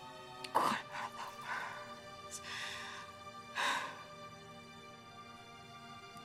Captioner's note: sighs